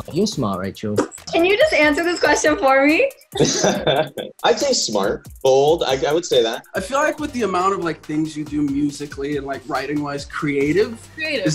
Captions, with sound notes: - You're smart, Rachel. - Can you just answer this question for me? (laughing) - I'd say smart. Bold, I would say that. - I feel like with the amount of things you do musically and like, writing-wise, creative? - Creative.